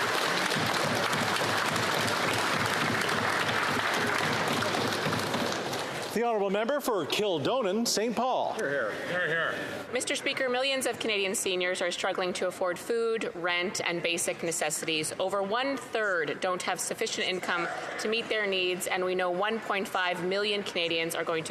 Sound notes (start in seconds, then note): 4.1 some Applause